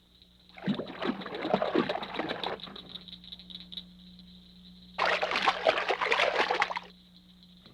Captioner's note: splashing sounds